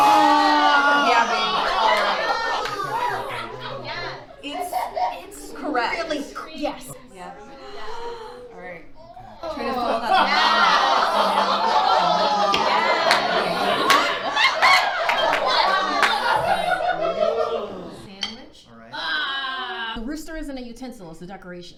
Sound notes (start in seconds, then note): 0.3 audience laughing; 6.5 gasping; 18.9 groans